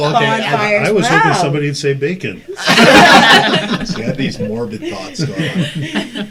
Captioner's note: all laugh